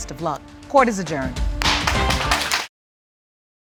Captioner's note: applause